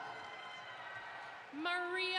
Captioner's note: audience applauds